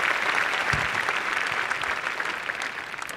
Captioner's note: applause